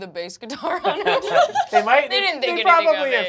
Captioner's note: laughter